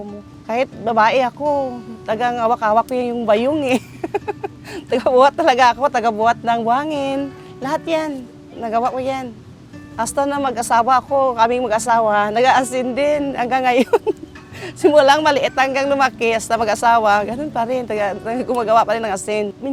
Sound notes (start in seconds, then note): 3.7 laughs